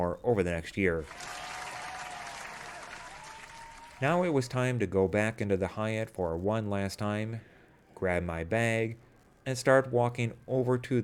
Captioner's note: applause